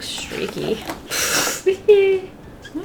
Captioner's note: laughs